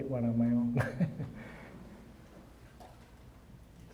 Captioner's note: chuckling